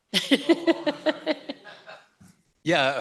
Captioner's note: laughs